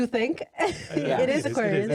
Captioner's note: laughs